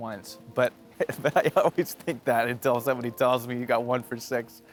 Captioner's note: laughs